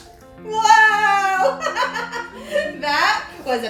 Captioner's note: laughs